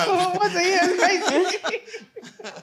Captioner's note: laughter